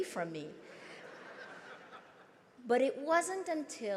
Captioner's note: crowd laughs